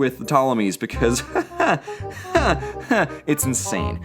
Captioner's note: nervous laughter